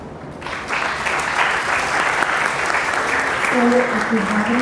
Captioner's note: applause